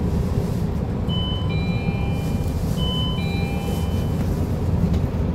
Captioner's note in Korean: 하차벨 소리